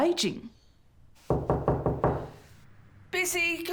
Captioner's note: hand rapping